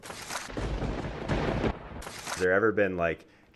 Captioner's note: thunder crackles